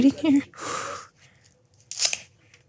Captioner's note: exhales